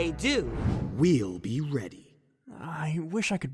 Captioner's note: deep voice